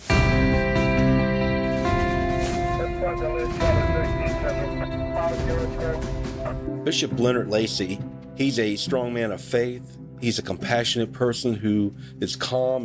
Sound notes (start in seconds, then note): 0.4 soft music; 3.1 police radio chatter